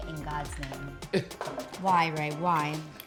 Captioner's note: laughing